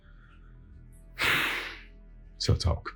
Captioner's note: exhales